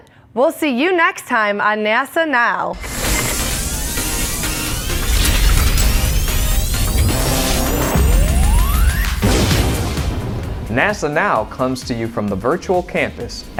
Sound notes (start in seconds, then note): 2.7 sound Effects